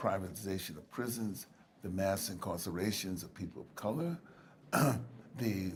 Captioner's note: clears throat